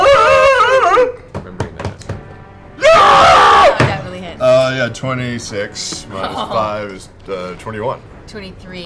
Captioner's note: screams